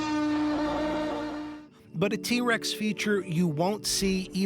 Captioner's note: roars